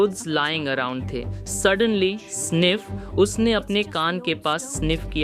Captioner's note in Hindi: सांस लेने की आवाज़